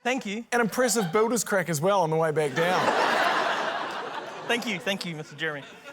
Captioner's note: laughter